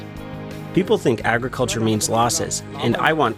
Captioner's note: through translator